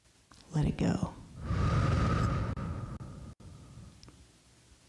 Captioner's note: breath hisses